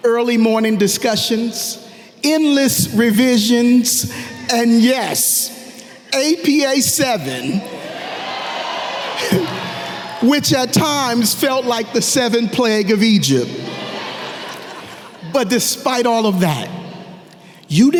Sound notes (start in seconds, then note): 7.7 audience cheering; 13.4 audience laughing